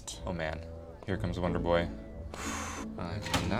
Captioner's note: exhales sharply